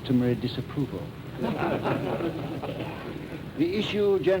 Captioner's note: laughter